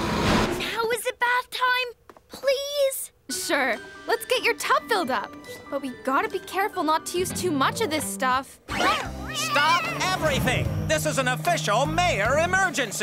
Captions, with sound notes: Now is it bath time, please? Sure. Let's get your tub filled up. But we gotta be careful not to use too much of this stuff. [meowing] Stop everything! This is an official Mayor emergency!